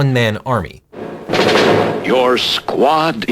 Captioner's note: rapid gunfire